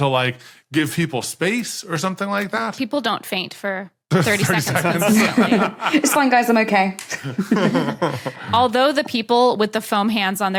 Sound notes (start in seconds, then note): 4.2 group chuckling; 7.0 guests chuckling